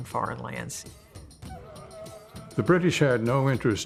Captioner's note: men chanting